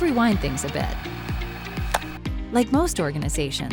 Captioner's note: tape rewinding